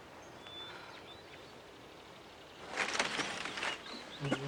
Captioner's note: birds singing